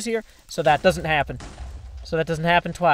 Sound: boom boom

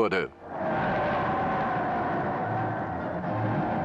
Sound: crowd cheering

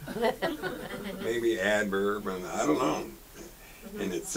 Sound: audience laughs

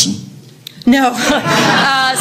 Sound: audience laughter

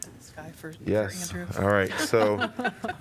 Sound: laughter

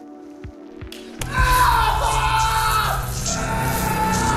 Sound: screaming; more screaming

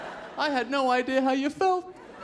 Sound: laughter

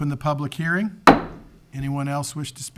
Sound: gavel taps

